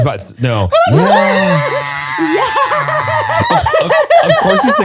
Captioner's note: all scream